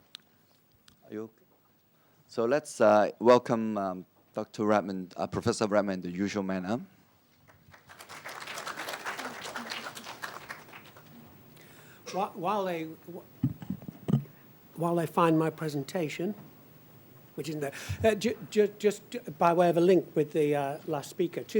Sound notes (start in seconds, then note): 7.4 applause